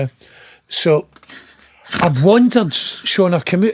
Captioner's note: laughing